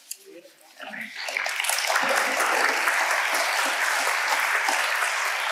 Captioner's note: audience applauding